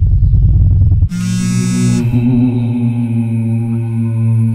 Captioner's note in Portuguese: Celular vibrando